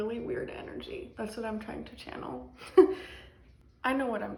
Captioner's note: laughs